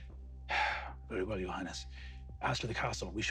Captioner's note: sighs